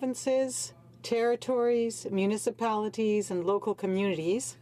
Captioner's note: speaking french